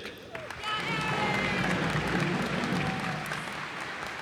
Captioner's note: cheers and applause